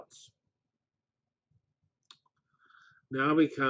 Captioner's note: pause